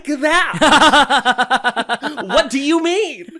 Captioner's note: giggles